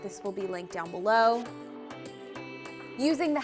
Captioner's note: none